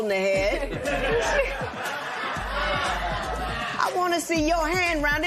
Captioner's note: laughter